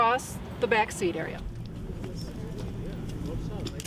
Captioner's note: group talking